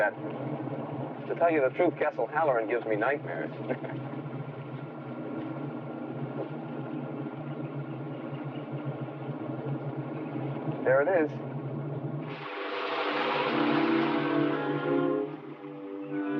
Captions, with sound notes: To tell you the truth, Castle Haloran gives me nightmares. (chuckling) There it is. (suspenseful orchestral music)